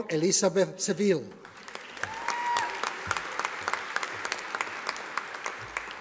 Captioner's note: audience applauding